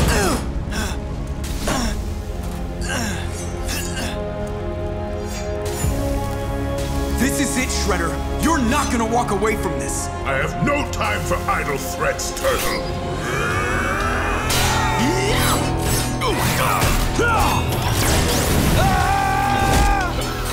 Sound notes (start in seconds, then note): 0.3 grunting; 13.2 grunting; 18.3 yelling